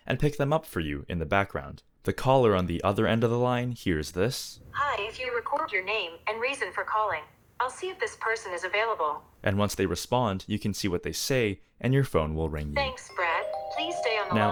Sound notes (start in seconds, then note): 7.0 phone speaking; 12.9 phone ringing